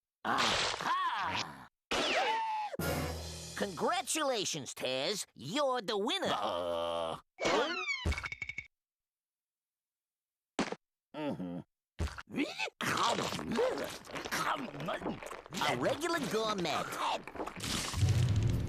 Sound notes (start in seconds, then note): 12.8 chomping